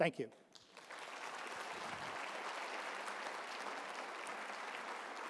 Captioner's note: audience applauds